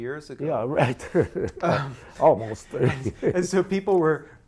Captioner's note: laughs